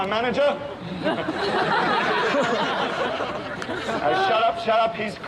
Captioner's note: crowd laughs